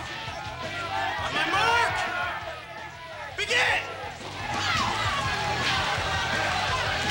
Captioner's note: crowd cheering; intense rock music